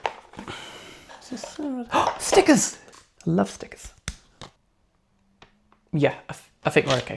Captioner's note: gasp